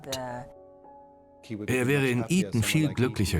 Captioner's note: voiceover